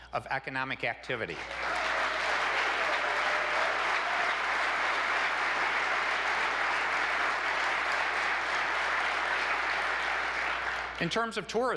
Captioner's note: applause